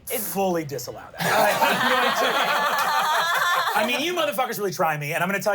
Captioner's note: everyone laughs